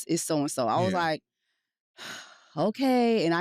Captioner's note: sighs